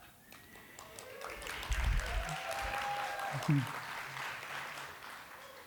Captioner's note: applause